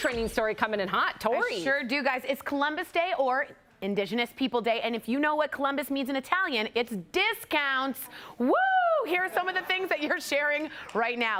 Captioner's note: applause